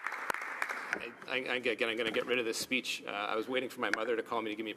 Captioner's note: applause